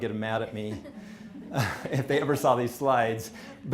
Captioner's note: laughing